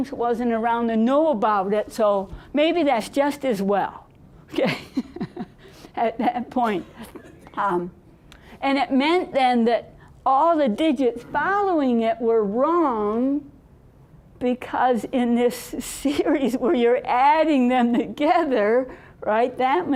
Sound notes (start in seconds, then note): 4.6 laughing